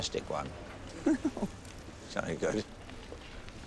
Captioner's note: laughing